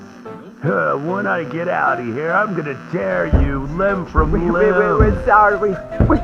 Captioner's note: footsteps fx